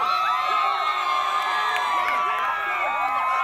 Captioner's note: people Cheering